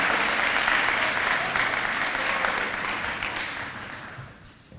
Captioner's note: applause